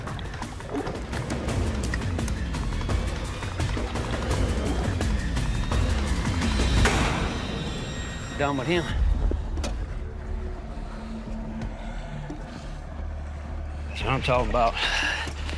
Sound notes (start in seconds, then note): 6.8 gunshot